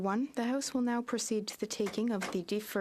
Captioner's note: speaking French